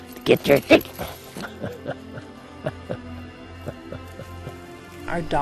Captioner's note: chuckling